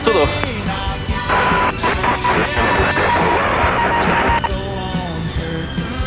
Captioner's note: signal interference